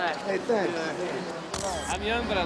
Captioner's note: camera shutter clicks